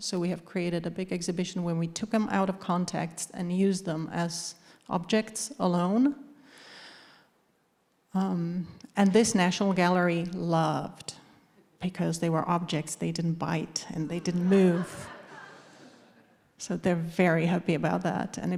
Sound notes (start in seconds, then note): 14.2 audience laughing